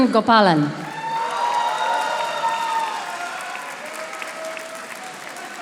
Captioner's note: audience applauding